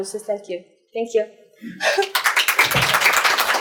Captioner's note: laughs; applause